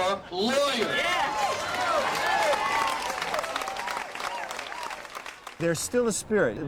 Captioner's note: people cheering; clapping